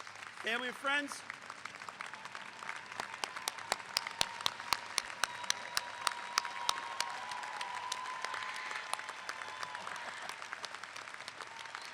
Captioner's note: clapping